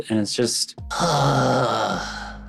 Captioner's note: groans